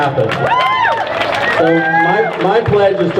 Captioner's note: crowd cheers